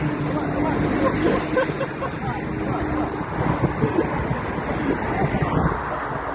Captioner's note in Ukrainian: сміх